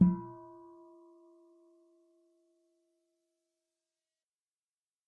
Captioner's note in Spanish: campana